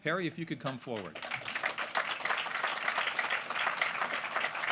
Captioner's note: applause